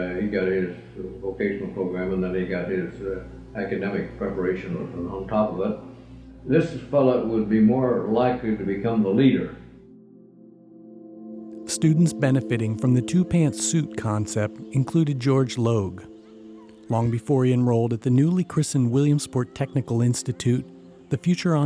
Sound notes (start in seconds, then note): 11.7 voiceover